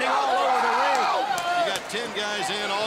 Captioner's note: crowd chatter